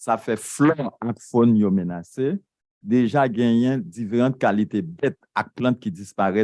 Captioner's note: speaking a foreign language